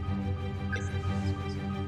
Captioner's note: radar bleeping